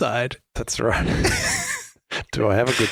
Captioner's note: laughs